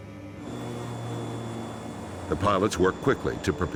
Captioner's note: engines droning; voiceover